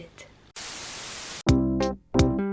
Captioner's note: static noise